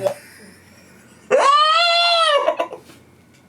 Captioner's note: laughing